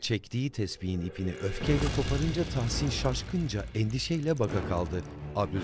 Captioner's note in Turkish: Tespih boncukları dökülme sesi